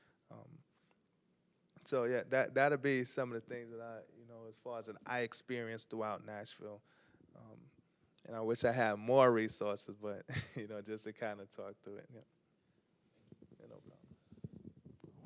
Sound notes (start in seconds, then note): 10.2 chuckles